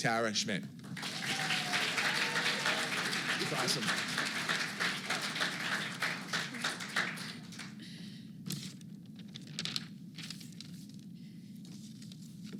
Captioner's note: applause